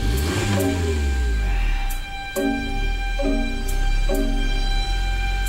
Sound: engine Starts

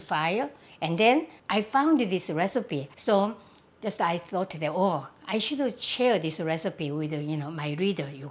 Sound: none

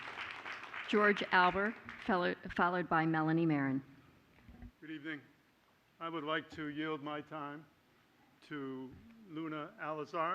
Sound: applause

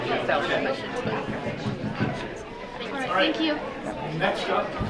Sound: tapping

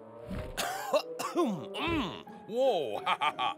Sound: cough

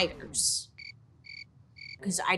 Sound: crickets chirping

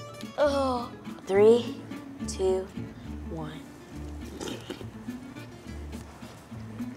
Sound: slurping

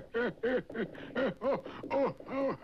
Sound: laughs

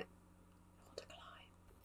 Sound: whispers

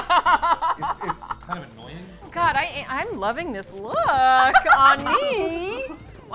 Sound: laughs; laughs

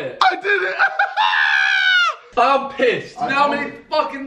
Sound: laughs

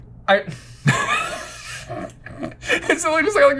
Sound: chuckles

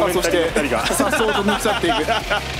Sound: laugh

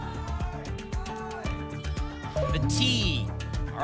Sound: audience shouting letters

